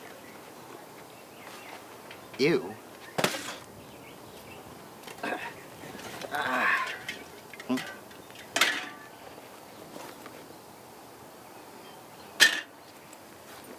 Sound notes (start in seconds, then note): 3.1 box clunking; 8.8 cans clunking; 9.0 birds chirping